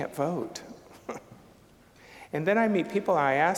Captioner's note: chuckling